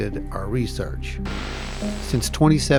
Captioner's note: static crackling